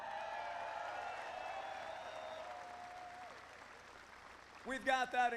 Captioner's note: applause